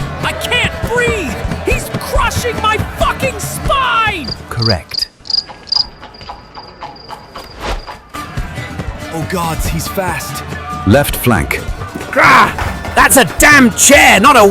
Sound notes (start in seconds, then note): 4.8 crickets chirping; 7.7 swooshing sound